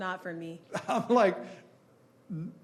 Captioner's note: chuckling